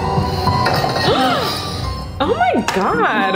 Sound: gasp

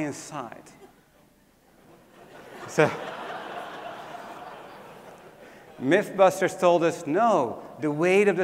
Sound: laugh

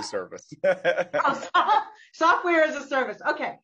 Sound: laughter

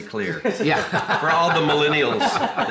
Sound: group laughs

